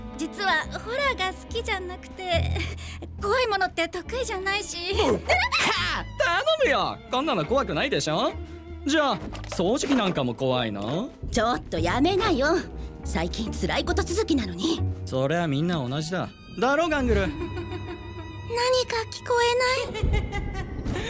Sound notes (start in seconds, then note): 5.3 stammers; 6.0 chuckles; 17.3 spooky giggle; 19.8 giggling continues